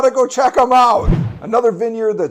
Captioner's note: air whooshing